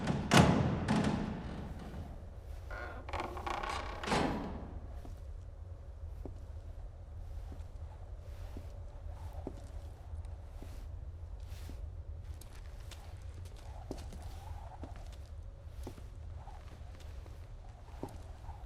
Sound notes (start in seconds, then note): 0.0 door creaking; 7.9 footsteps tapping